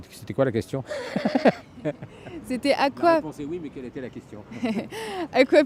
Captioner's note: laughs; laughs